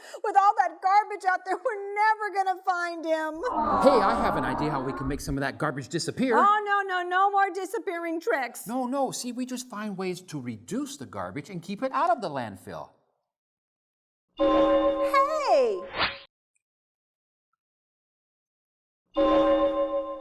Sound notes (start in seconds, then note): 14.5 chime; 19.0 chime